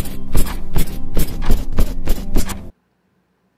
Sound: bed rocking

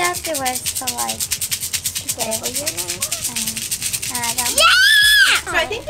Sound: beads rattling loudly

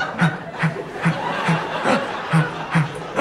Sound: labored breathing

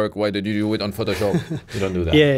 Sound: laughs

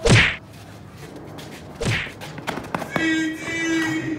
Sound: excessive punching sounds

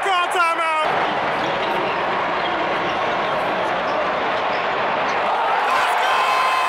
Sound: crowd noise

